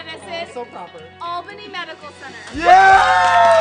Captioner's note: cheering